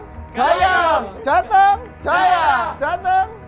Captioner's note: cheering in region language; cheering